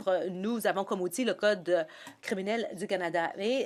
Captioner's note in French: voix de l'interprète